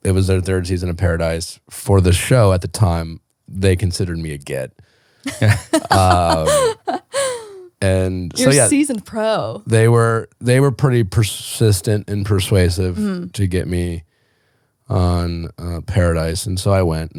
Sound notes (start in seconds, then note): 5.2 laughing